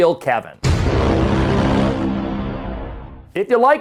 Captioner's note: logo thuds; hard airy music